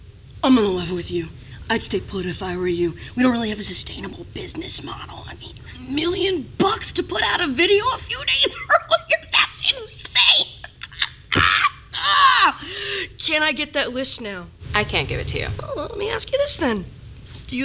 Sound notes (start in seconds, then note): 10.2 hysterical laughing